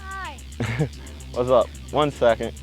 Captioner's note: laughs